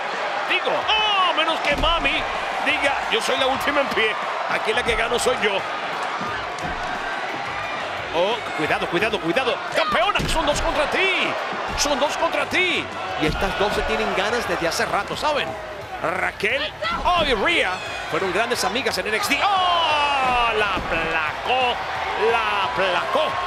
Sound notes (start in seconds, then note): 6.0 applause; 21.9 applause